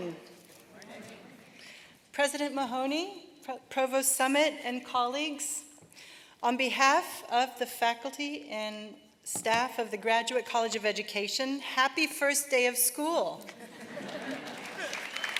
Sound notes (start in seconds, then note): 13.5 laughter